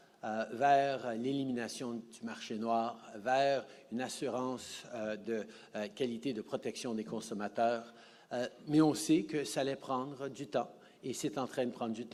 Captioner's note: speaking French